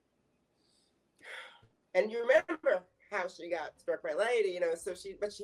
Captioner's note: sighs